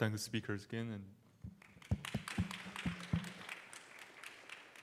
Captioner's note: applause